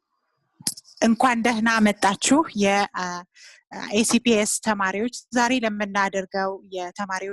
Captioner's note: Amharic